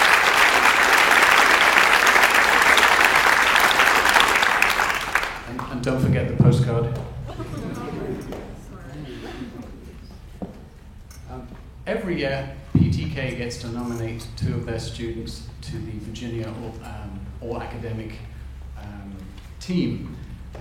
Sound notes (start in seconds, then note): 7.1 audience chuckles